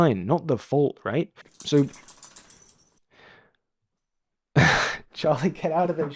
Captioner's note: dog shaking noise